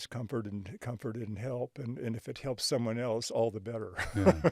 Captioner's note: chuckles